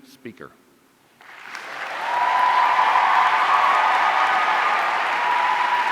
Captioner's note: audience cheering